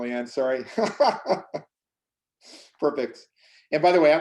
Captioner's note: laughs